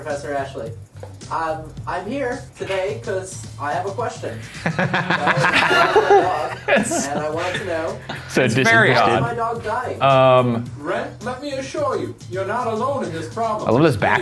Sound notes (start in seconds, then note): 4.4 all laughing